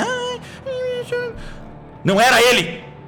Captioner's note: baby talk